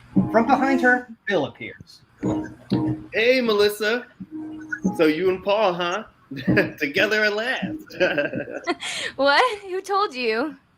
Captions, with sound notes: From behind her, Bill appears. - Hey, Melissa! So, you and Paul, huh? Heh. Together at last! (chuckles) - What? Who told you?